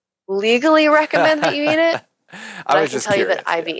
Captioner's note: laughing